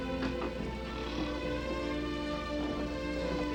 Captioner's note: snoring